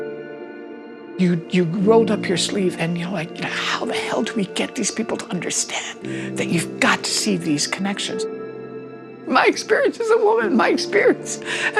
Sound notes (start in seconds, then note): 8.1 voice breaking